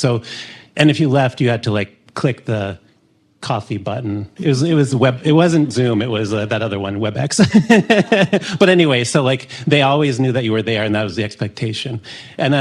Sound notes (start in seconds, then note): 7.4 laughs